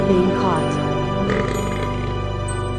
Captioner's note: buuuuuuurrrrrrrrrrp